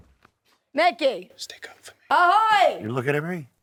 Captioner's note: whispering